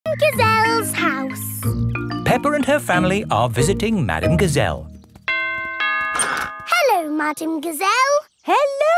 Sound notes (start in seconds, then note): 5.3 doorbell rings